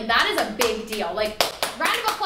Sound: clapping

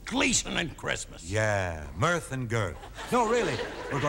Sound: audience laughing

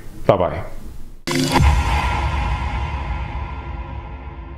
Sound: logo whooshing

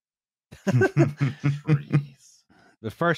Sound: laughter

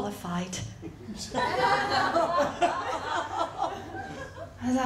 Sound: laughter

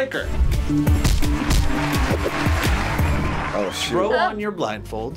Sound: upbeat music; crowd cheers

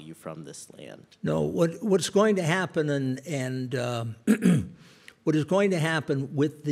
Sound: clears throat

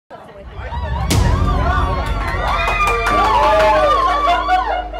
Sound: cheering and clapping

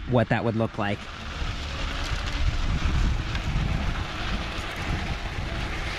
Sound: bike motor whirring

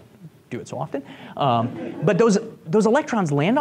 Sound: group laughs

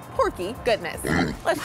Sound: pig oinks

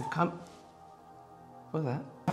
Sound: definitely A Ghost Noise

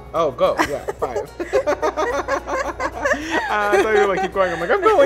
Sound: laughs

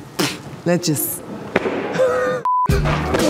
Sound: spits; laughs; funk music

